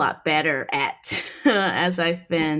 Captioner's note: laughing